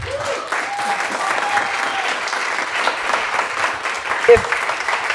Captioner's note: applause